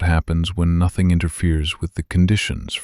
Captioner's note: quiet and steady